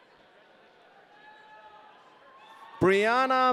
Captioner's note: audience cheering